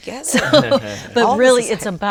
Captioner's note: laughs